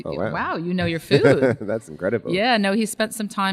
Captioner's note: laughs